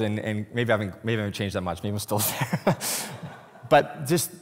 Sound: laughs

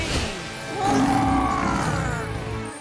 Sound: roaring

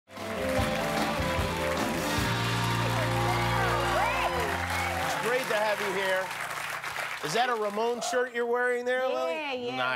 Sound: cheers and applause

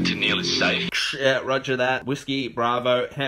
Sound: radio sound

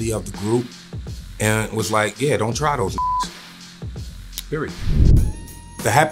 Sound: beeps

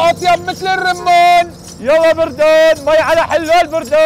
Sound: continues shouting to attract customers

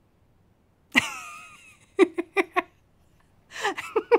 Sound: laughter

